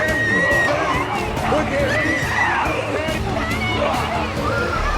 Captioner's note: Naddie screams